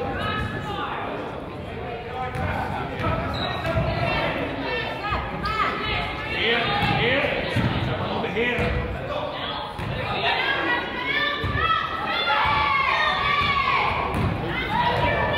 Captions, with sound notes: (coach yells) - Defense, defense. - Here, here. (coach yells) - Out of bound, out of bounds. (crowd yells)